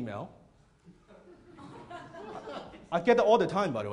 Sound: laughter

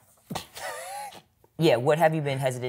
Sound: laughs

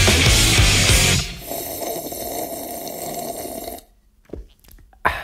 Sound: heavy rock music; coffee slurp

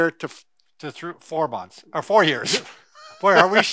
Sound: laughs

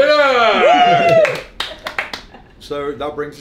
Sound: cheering and applauding

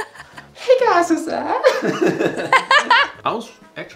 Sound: both laughing

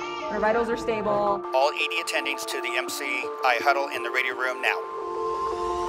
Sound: radio

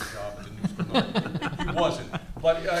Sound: panelists laugh

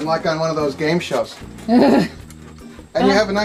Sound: laughs

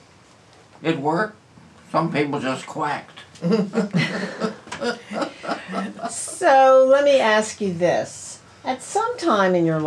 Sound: laughter

